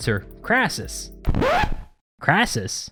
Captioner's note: record Scratch